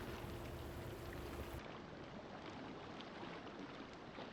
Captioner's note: water rushing